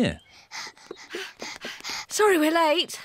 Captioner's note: panting